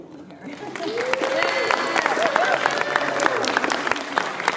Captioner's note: applause